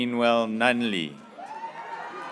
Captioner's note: graduates cheering